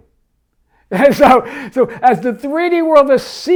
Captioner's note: laughs